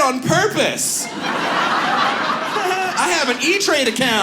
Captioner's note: audience laughs